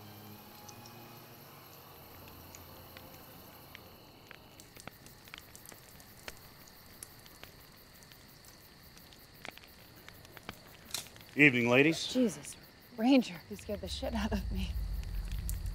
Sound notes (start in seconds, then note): 0.0 somber music continues; 4.8 bugs chirping; 4.8 fire crackling